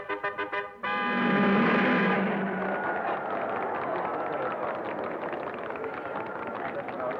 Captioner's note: cars revving; crowd applauding